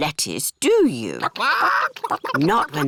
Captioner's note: chickens chatter